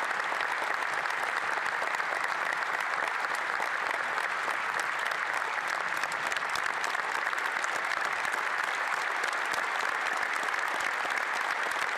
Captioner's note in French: applaudissements